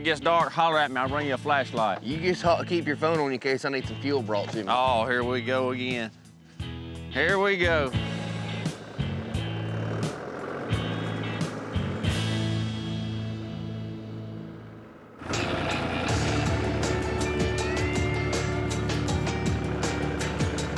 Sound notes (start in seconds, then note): 8.0 tractor engine revs